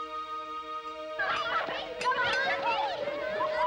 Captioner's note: children laughing